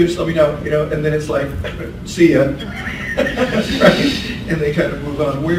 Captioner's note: laughs